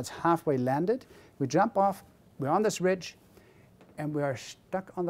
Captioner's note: none